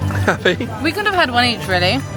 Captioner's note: laughing